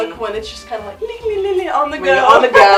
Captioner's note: laughs